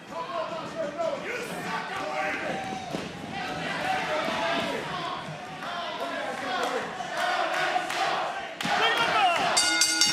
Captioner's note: crowd chants; crowd jeering; bell rings